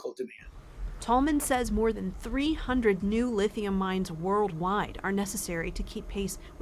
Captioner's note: voice-over